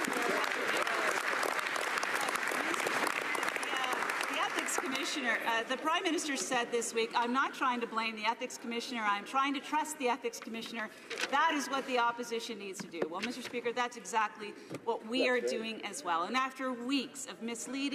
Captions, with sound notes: BETTER COUNT ON GETTING SOME BETTER COMMUNICATIONS ADVICE. [ Some Applause ] THE PRIME MINISTER SAID THIS WEEK I'M NOT TRYING TO BLAME THE ETHICS COMMISSIONER, I'M TRYING TO TRUST THE ETHICS COMMISSIONER, THAT IS WHAT THE OPPOSITION NEEDS TO DO. MR. SPEAKER, THAT'S EXACTLY WHAT